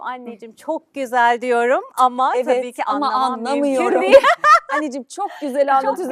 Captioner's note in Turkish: kahkaha